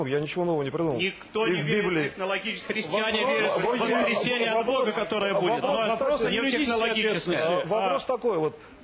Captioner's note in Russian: шум в зале